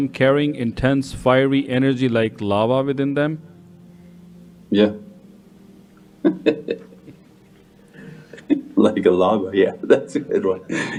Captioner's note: laughs